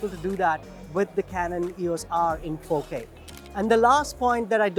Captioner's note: camera clicks